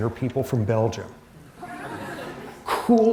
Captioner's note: laughter